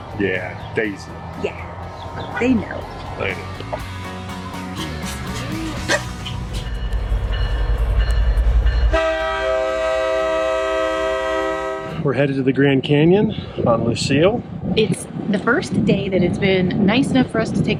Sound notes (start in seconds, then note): 5.8 dog barks; 7.4 train clanging; 8.2 train horn blaring